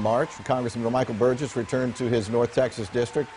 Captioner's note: applause